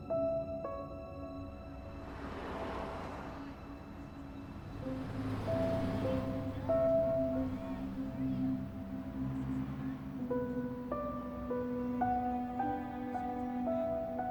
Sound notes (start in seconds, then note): 2.6 traffic whooshing; 11.1 suspenseful music